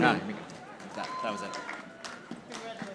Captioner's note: audience applauding